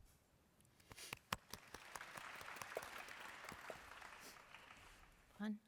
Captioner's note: applause